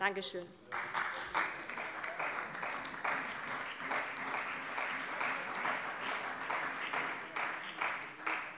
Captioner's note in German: Beifall bei der CDU und dem BÜNDNIS 90/DIE GRÜNEN